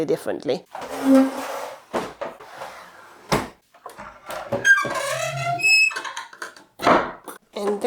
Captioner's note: table squeaks